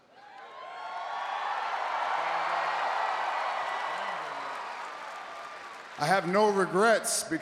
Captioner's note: applause